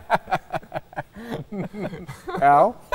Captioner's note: laughing